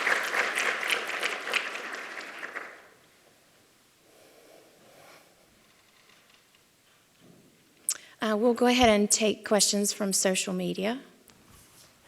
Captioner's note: applause